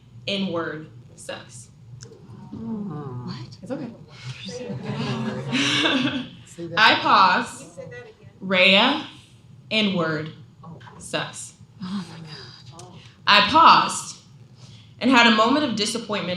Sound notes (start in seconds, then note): 1.3 crowd reaction